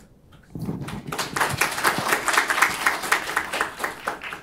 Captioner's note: audience applauds